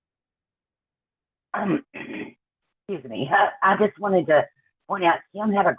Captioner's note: clears throat